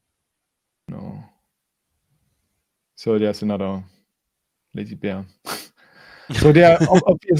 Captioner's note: laughs